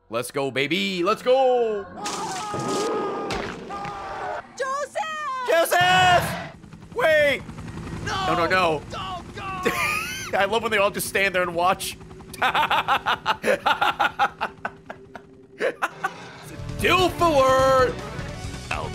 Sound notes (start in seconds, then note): 8.4 laughs